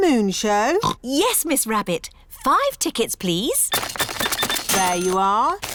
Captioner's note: oinks